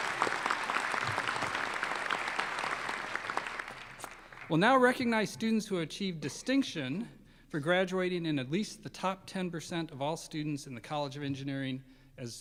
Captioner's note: applause